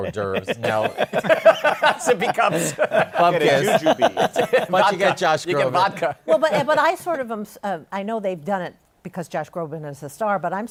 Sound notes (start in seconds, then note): 0.0 laughter